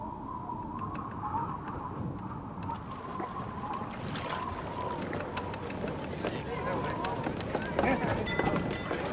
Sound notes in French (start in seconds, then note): 3.9 vent qui souffle; 8.1 cloche de bateau